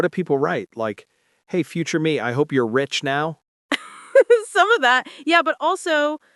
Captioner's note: chuckling